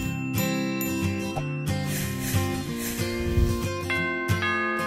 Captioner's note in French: les cloches continuent de sonner; bruits de frottement; sonnerie de porte